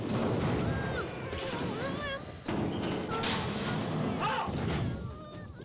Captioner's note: Tommy groaning frantically